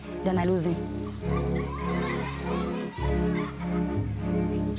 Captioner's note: children laughing; dramatic instrumental music